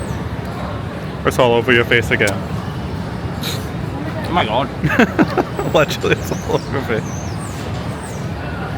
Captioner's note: laughs